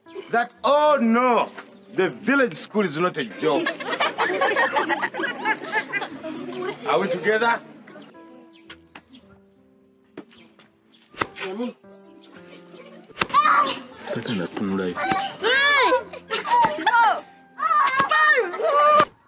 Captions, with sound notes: That oh no, the village school is not a joke. [Giggles from pupils] Are we together? One. [Crystal cries] I don't even want to look there. Three, Four. [Crystal cries] Five!